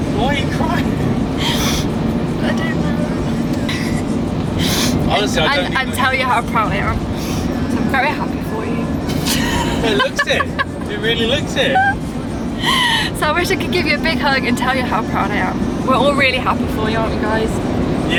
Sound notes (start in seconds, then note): 9.2 laughing